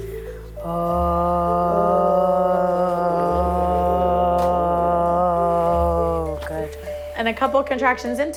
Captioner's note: breathing sounds